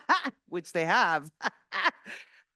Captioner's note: laughs